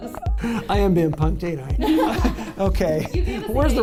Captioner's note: laughter